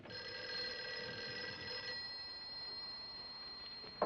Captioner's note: phone ringing